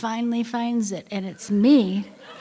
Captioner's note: laughter